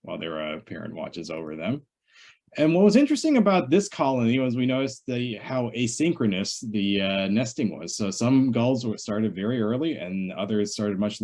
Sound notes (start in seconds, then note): none